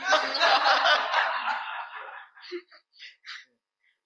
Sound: audience laughing

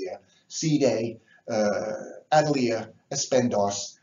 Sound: speaks foreign

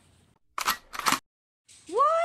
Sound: gun reloads

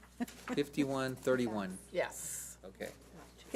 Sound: laughs

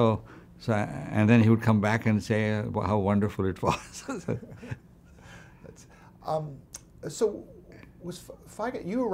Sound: laughs

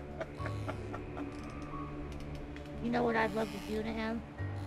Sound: laughing

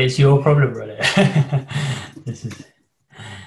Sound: laughs

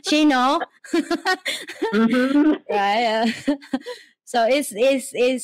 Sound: laugh

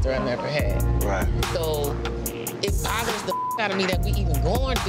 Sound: beep

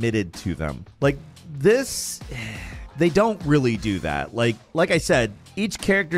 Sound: sighs

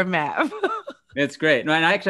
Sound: chuckles

